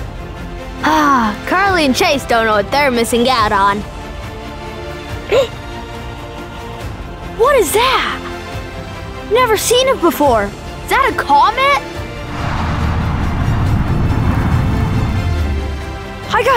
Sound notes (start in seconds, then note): 5.6 gasp; 12.1 wind from comet